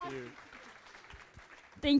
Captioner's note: applause